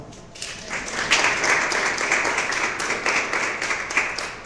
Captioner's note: applause